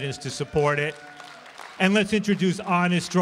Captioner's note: applause